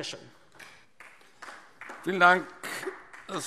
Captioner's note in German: Beifall DIE LINKE